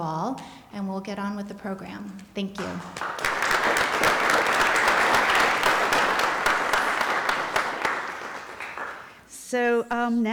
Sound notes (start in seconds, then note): 2.6 applause